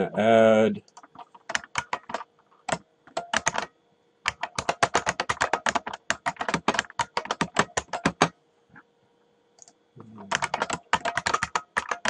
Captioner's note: typing